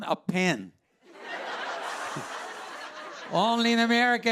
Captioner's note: laughter